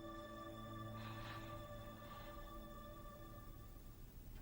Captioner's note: Louise sighs